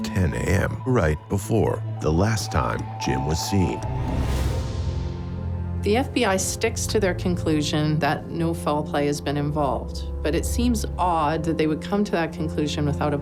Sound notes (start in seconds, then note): 4.5 swooshing